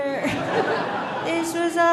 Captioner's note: audience laughing